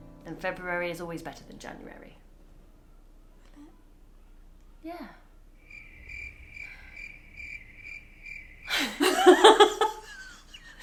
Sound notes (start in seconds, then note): 5.5 crickets sfx; 8.6 laugh